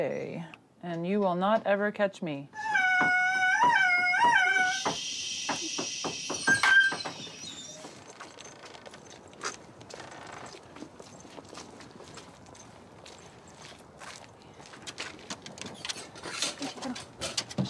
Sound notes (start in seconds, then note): 2.5 dog whining; 7.0 dog cries; 11.2 footsteps crunching on gravel; 15.6 kennel door creaks open